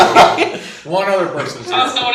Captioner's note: laughing